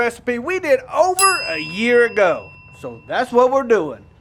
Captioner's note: bell dings